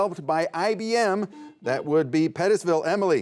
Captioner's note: buzzer beeps